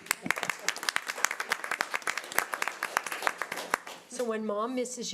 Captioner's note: audience applause